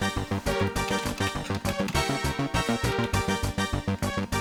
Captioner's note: keyboard clacking